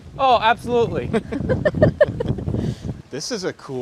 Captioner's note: all laughing